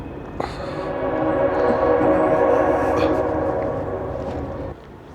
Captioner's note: train sounds